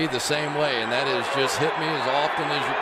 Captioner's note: screams